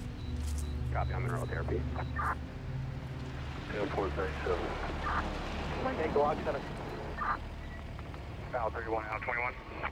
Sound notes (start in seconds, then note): 0.9 faint police radio chattering